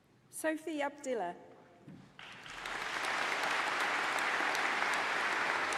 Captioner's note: applause